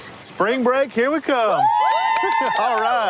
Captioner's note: cheering